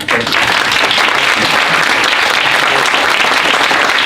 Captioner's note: applause